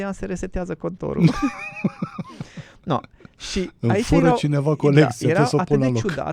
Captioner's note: laughter